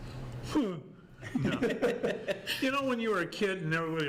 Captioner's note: group laughs